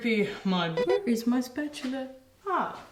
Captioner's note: beeping